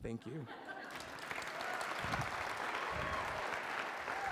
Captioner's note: applause